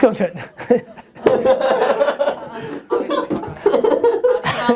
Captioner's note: laughing offscreen